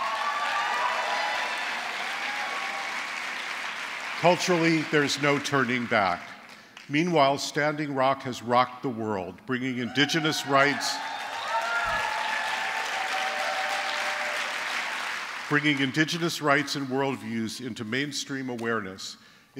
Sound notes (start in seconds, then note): 0.0 applause; 9.8 cheers